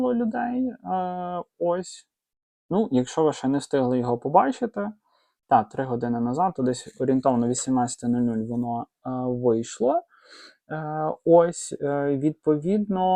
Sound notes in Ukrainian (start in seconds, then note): 10.1 сопіння